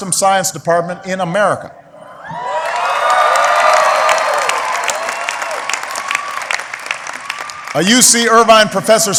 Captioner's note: applause